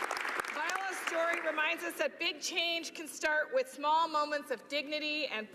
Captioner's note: applause